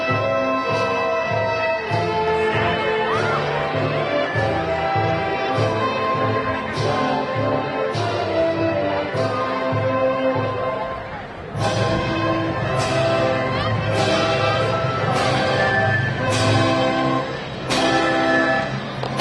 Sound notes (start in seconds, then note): 4.1 graduation music continues; 9.4 crowd cheering